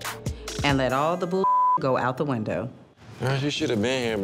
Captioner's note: beep